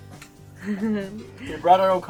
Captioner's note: chuckles